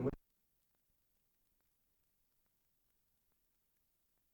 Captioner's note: silence